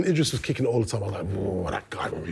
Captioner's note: growl sound